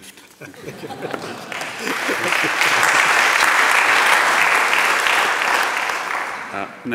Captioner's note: applause